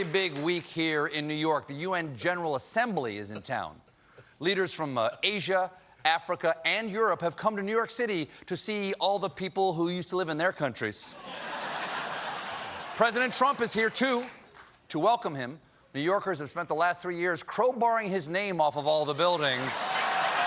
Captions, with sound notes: IT'S BEEN A VERY BIG WEEK HERE IN NEW YORK. THE U.N. GENERAL ASSEMBLY IS IN TOWN. LEADERS FROM ASIA, AFRICA, AND EUROPE HAVE COME TNEW YORK CITY TO SEE ALL THE PEOPLE WHO USED TO LIVE IN THEIR COUNTRIES. ( LAUGHTER ) PRESIDENT TRUMP IS HERE, TOO. TO WELCOME HIM, NEW YORKERS HAVE SPENT THE LAST THREE YEARS CROWBARRING HIS NAME OFF ALL THE BUILDINGS.